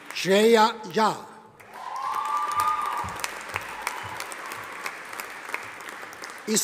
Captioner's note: audience applauding